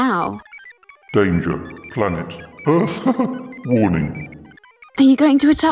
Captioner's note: laughs